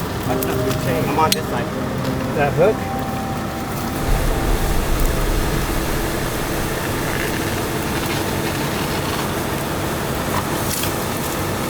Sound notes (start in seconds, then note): 4.2 truck humming